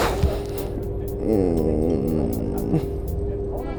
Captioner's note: groans